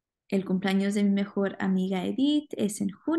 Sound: speaking spanish

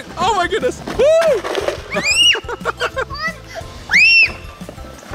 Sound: the kids and dad giggle and scream

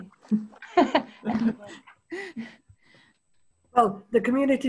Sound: laughter

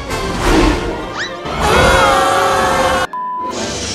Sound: woosh, Screaming

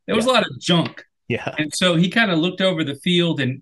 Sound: laughs

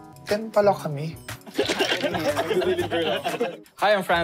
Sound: giggling

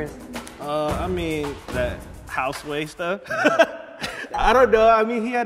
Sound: laughs

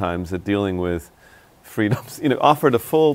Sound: laughs

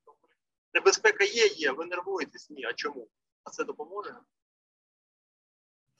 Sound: speaking in foreign language

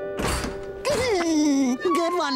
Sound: laughing

